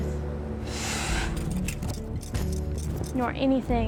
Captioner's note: puffs air